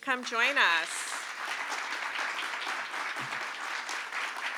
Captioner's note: applause